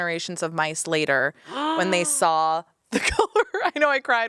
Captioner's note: gasps